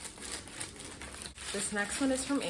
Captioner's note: opening package